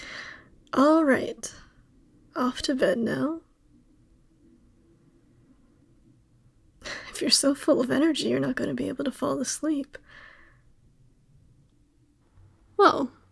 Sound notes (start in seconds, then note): 4.7 laugh